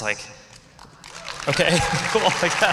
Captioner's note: applause